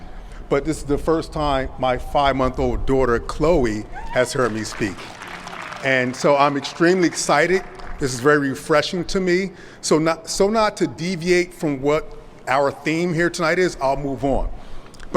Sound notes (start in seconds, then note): 4.0 applause